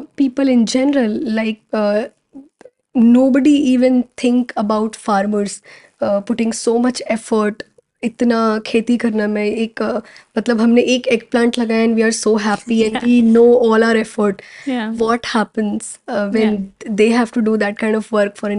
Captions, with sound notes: people in general, like, nobody even think about farmers, putting so much effort in, even after doing this much of gardening, like we are planting one eggplant(Speaking in Hindi) and we are so happy and we know all our effort. What happens when they have to do that kind of work for an